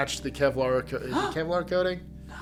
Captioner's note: gasping